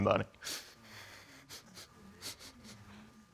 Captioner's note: sniffles